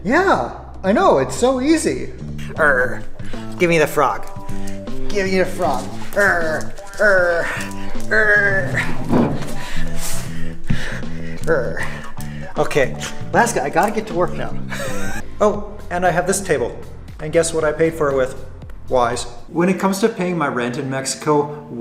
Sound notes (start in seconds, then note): 2.6 growls